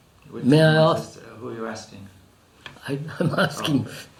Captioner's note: laughs